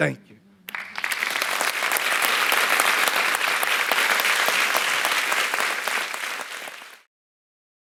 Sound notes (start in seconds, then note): 0.7 audience applauding